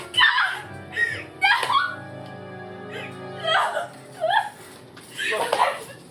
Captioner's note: angry sobbing